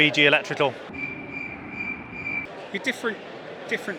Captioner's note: crickets chirping